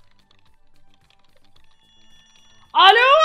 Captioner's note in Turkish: telefon sesi